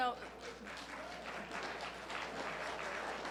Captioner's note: applause